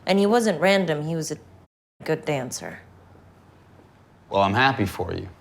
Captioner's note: muted